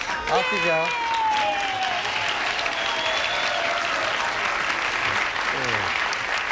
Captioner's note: audience applauding